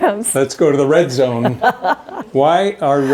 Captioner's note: laughing